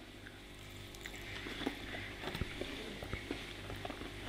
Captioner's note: chewing